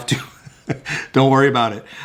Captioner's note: laughing